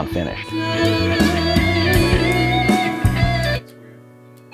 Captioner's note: vocalizing